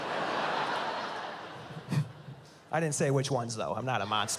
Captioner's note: laughs